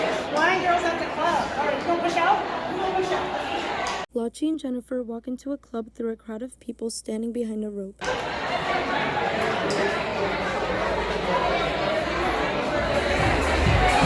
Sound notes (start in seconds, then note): 8.0 crowd of people talking and laughing; 12.6 electronic dance music